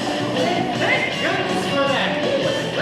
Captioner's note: none